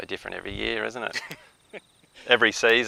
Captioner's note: laughter